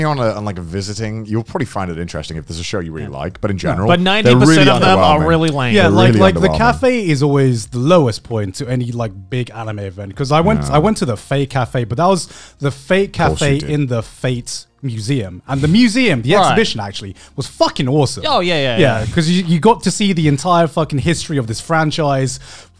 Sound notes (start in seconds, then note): 18.7 laughing